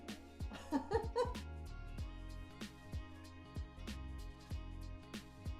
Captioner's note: laughing